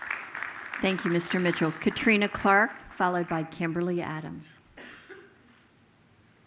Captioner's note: applause